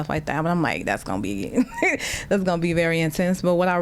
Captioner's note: laughter